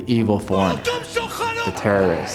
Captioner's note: yelling in foreign language